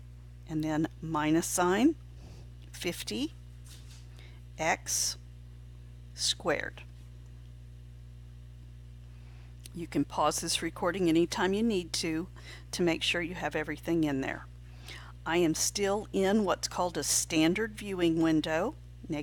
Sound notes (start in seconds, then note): 6.8 silent